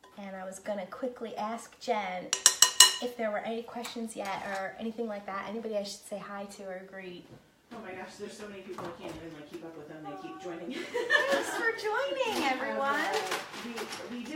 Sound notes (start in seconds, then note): 10.5 laughing